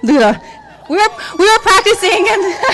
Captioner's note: cheering